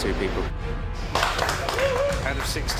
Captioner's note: crew applauds